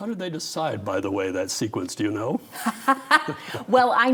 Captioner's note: laughing